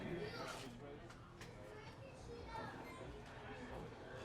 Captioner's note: children chatting